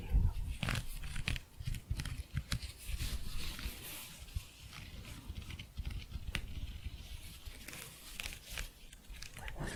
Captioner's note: higher pitched scratching